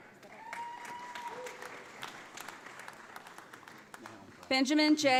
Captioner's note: audience applauds